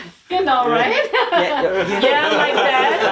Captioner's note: people laughing